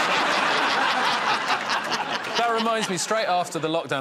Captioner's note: laughter